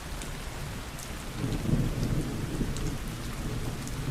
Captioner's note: rainstorm